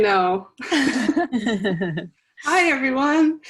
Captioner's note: laughs